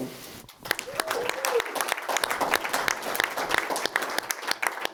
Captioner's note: audience applauds